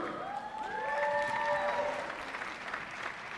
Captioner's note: applause